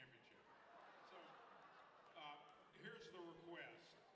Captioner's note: audience laughs